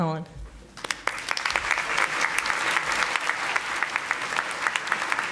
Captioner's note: audience applauding